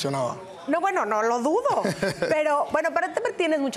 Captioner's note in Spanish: Ríe